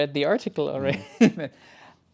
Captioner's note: both laughing